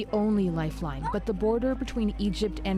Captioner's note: crying